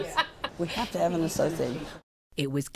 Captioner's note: laughter